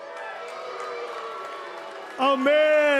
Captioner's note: cheers and boos